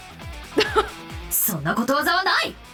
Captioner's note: chuckles